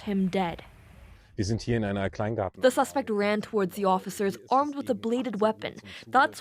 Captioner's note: speaking alternate language